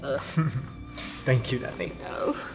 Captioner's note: Tristan chuckles